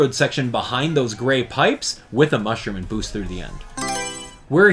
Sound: Mario Selection Sound

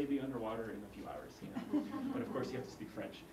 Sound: laugh

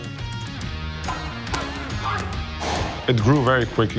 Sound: grunting

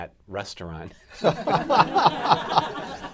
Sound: laughter

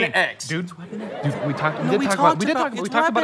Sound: arguing

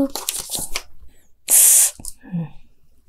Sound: sighing

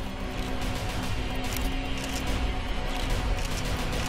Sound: cameras flashing

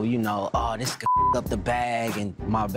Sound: beep

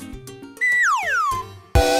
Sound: slide whistle; outro music

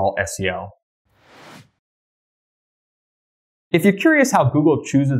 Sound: air whooshing

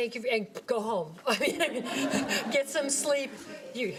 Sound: everyone laughing

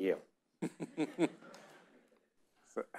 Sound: audience laughing; chuckles

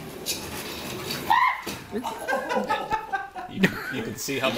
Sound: laughing

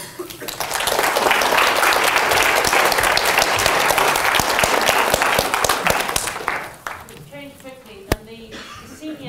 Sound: applause

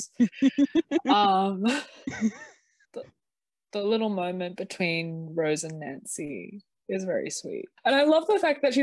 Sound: giggles

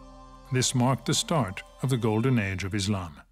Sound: speaks French

